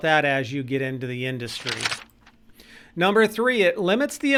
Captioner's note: paper rips